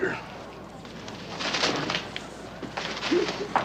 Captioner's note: paper rustling